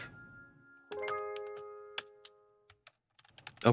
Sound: typing sounds

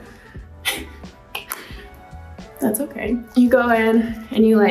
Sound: Madelyn chuckles

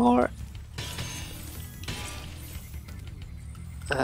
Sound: chests clank

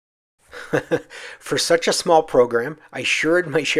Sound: laughs

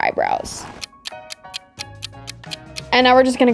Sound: clock ticking

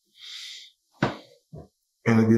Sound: loud thud

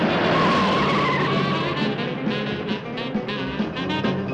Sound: tires screeching

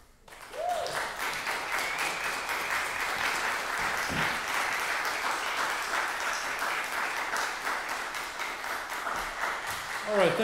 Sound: applause

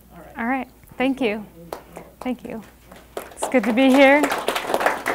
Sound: clapping

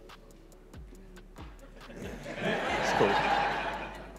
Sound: audience laughs

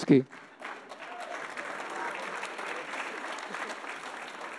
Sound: audience applauding

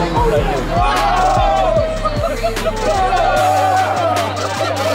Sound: crowd cheering

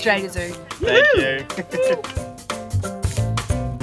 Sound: cheer

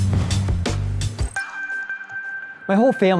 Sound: chimes ringing

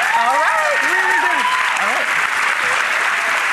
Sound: applause

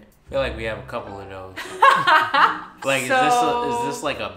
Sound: laughs

